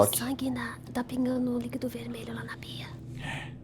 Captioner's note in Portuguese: cochichando